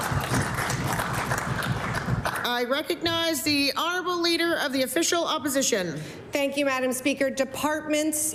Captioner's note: applause